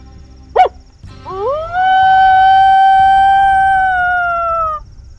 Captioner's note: high pitched animal call